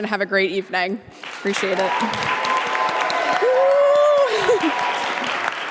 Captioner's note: audience applauding